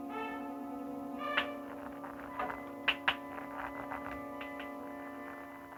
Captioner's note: rock tapping; rock scraping